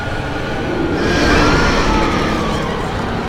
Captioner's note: demon roaring; people screaming